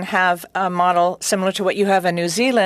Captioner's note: speaking French